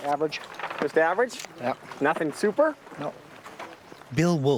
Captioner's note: voiceover